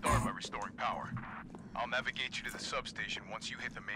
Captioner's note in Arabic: عبر الراديو